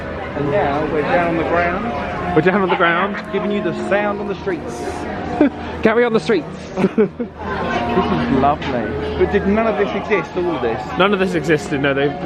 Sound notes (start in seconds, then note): 5.1 laughing